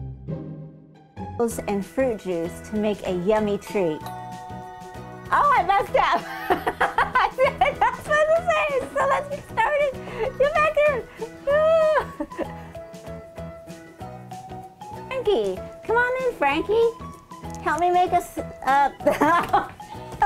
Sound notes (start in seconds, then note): 1.5 upbeat music; 4.0 doorbell; 6.9 laughing; 11.6 laughing; 19.0 laughing